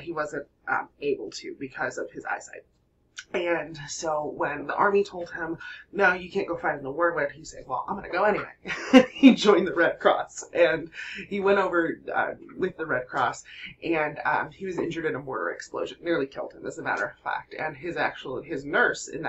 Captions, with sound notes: wasn't able to because of his eyesight. When the army told him, no, you can't go find in the World War he say, well, I'm going to go anyway. [LAUGHTER] He joined the Red Cross and he went over with the Red Cross and he was injured in a mortar explosion, nearly killed him, that a matter of fact and his nurse in